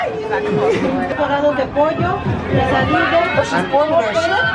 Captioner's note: female speaking Spanish